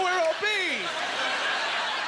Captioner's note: audience laught